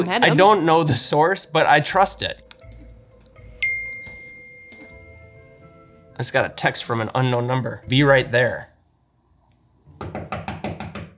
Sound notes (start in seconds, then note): 3.5 cell phone ding; 9.9 knocking at door